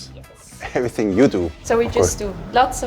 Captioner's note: chuckles